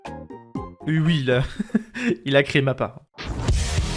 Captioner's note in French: Rire